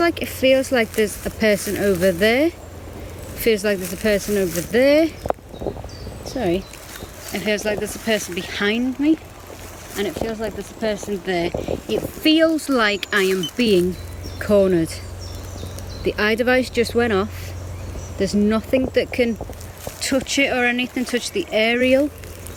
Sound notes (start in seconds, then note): 14.9 birds chirping